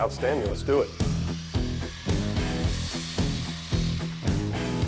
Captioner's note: saw buzzing